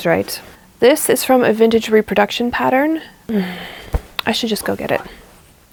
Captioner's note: sighs